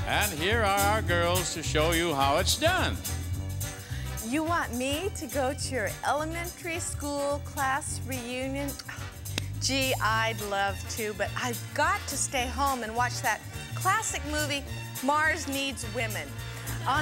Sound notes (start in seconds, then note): 9.0 sighs